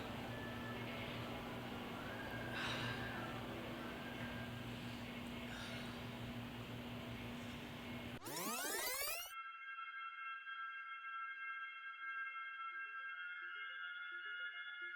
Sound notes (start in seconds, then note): 7.8 rewinding sound